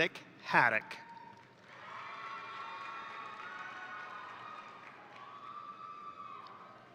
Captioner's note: crowd applauding; crowd cheering